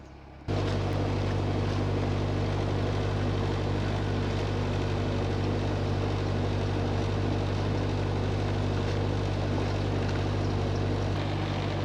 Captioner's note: sound of a train passing